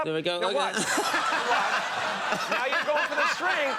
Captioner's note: audience laughs